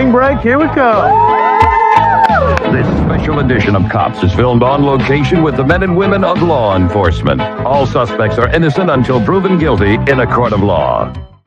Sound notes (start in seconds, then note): 0.6 cheers